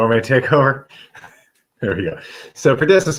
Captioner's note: laughter